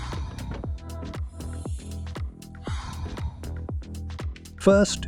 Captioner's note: breathing